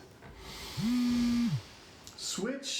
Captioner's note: Yogi's Phone Vibrates